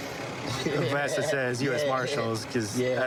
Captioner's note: laughing